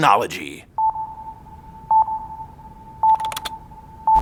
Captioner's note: beeping